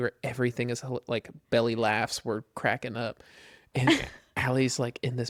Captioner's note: laughs